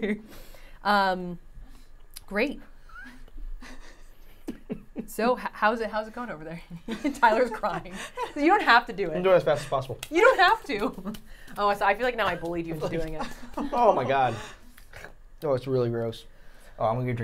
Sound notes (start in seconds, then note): 0.1 Safiya laughing; 3.2 laughing; 6.6 laughing